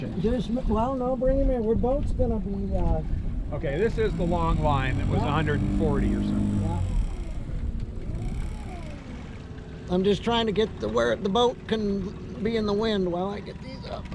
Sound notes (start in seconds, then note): 10.3 boat engine running